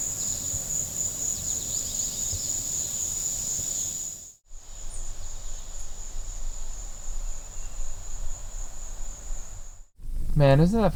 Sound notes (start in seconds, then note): 6.0 birds and insects chirping